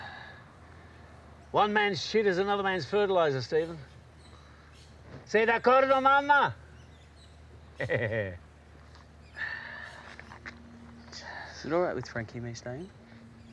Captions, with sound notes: One man's shit is another man's fertilizer, Steven. (speaks foreign phrase) (chuckles) - Is it all right with Franky, me staying?